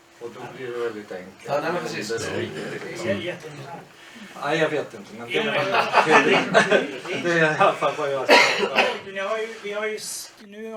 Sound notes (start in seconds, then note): 5.3 laugh